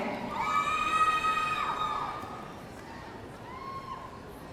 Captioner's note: audience cheering